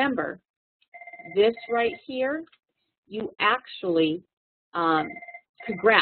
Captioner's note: background ringing